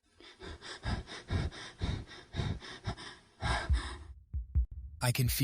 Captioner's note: heavy Breathing